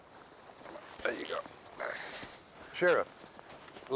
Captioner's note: grunts